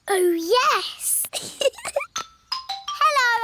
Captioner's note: giggles